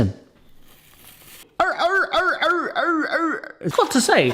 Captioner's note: tap tearing; seal honking